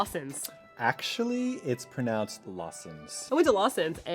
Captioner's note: tsk